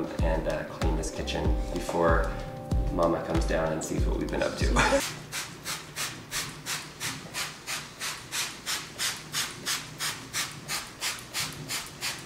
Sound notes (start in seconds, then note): 4.7 laughs; 5.0 spraying